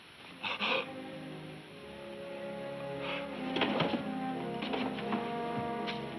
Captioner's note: somber music; Doc gasping